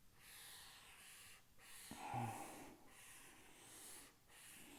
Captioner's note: marker gliding